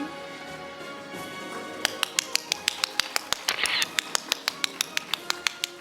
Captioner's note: audience applauding